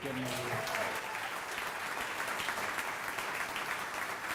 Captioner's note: audience applauding